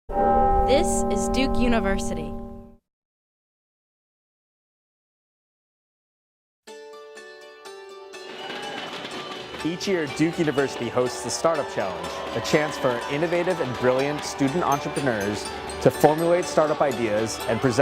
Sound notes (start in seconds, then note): 6.9 bright music; 6.9 crowd cheering